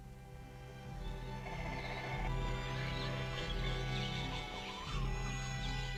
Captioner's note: tense orchestral music; animals chittering